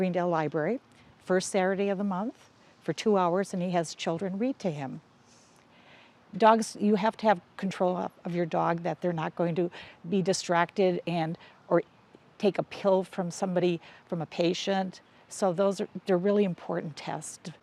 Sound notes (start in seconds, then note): none